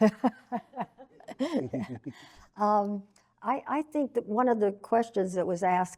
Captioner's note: chuckles